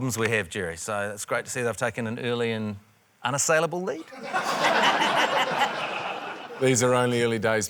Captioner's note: laughter